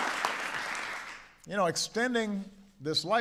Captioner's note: applause